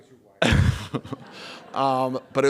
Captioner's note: laughter